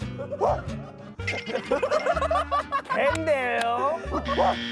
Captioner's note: laughing